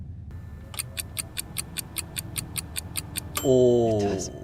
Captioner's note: clock ticking; bell dinging